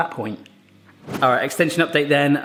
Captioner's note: whooshing